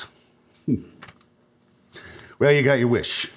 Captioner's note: chuckles